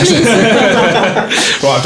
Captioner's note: laughing